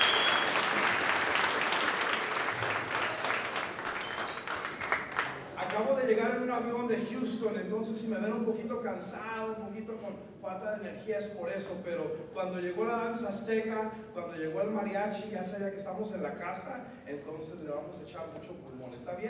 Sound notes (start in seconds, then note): 5.4 non-english speech